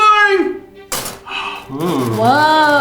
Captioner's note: cone cracks